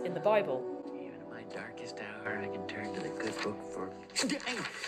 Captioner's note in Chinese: 呻吟